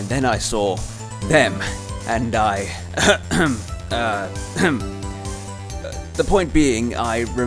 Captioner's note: ahem; ahem